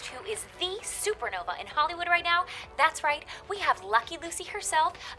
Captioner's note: none